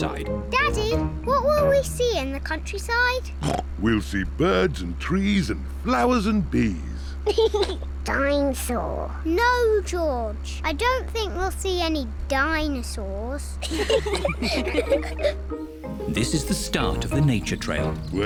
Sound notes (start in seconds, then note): 3.4 snorts; 7.2 laughs; 13.6 all giggle